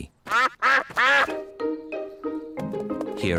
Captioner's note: ducks quack